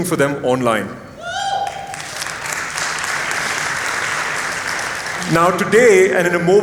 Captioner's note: applause